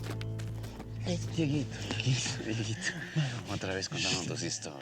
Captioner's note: speaking spanish